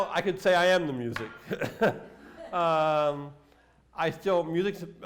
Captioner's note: laughter